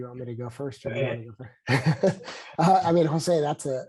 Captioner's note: laughs